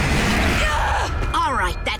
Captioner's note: screaming